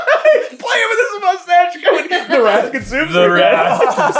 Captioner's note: cracking up; team laughter